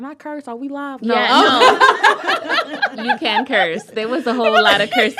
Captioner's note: laughter